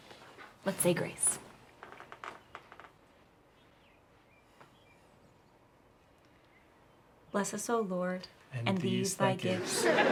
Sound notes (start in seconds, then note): 2.0 birds chirping